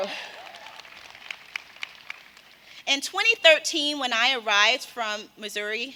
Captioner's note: cheers and applause